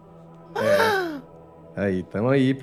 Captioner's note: gasps